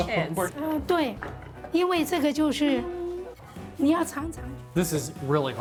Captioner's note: speaking local language